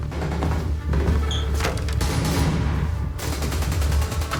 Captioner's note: gunfire on tv